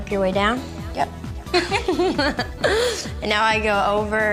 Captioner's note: giggling